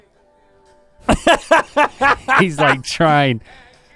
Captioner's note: Rhett laughs loudly